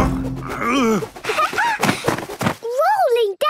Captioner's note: laughing